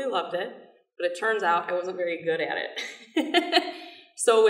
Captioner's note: laughing